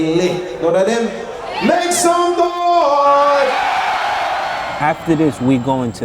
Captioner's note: crowd cheering